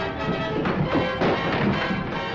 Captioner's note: crash